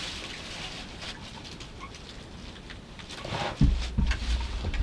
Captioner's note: brush rustling